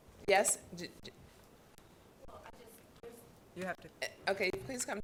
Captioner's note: woman mumbling